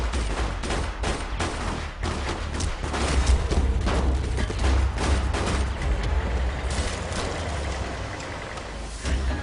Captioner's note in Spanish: Disparos